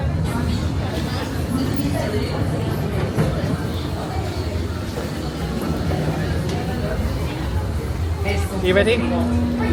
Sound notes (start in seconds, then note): 4.4 cavernous rumble of ride